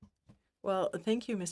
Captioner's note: speaking French